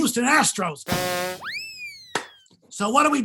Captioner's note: rim shot & clown horn